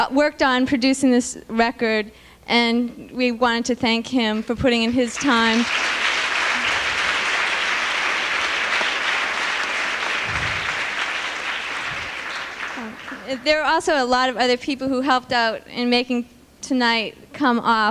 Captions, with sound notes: worked on producing this record, and we wanted to thank him for putting in his time. [APPLAUSE] There are also a lot of other people who helped out in making tonight come off,